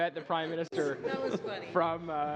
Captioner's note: laughter